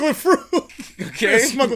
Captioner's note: laughs